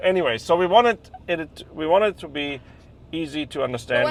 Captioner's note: none